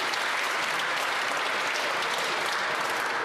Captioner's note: applause